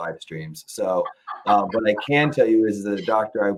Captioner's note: laughs